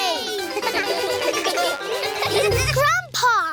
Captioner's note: all giggle